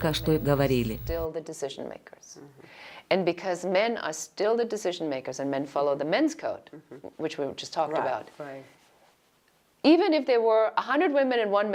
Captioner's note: Говорят на английском